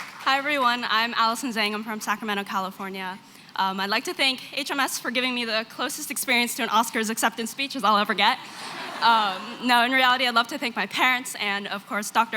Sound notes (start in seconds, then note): 8.4 laughter